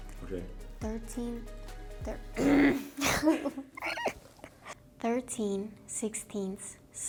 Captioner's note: laughs